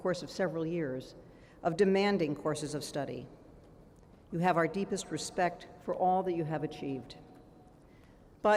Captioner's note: none